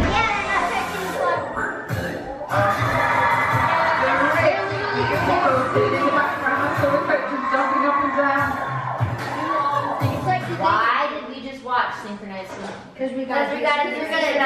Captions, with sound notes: (upbeat music) (cheering) Why did we just watch synchronized swimming?